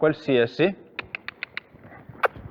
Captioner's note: cluck